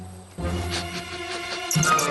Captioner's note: sniff